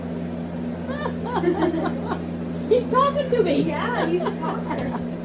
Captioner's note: laughter